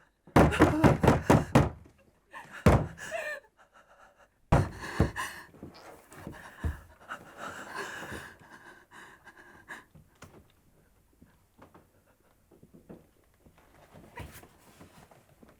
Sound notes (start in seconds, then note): 0.2 both gasping over sharp pounding on door; 6.2 both gasping